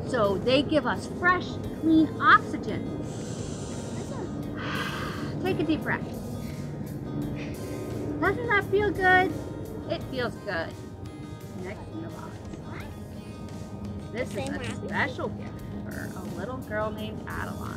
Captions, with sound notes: So they give us fresh, clean oxygen. (Breaths deeply) Take a deep breath. (Breathing in) Doesn't that feel good? It feels good. Next in the box. This is a special gift for a little girl named Adeline.